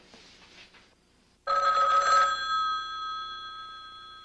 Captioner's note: phone rings